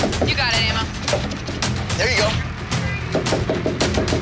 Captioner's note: crowd cheering; dramatic music; light tapping